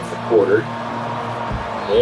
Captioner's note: crowd Noises